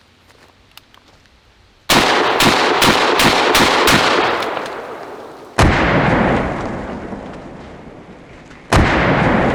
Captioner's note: gunshots